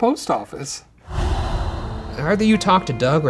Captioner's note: dramatic whooshing